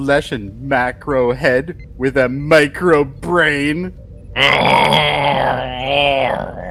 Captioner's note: growling